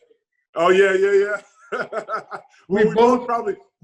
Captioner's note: laughs